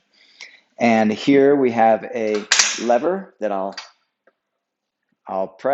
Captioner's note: rack snaps